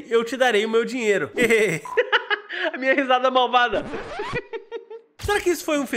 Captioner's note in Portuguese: risos; risos